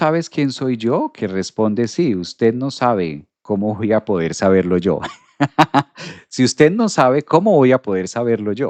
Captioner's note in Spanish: risas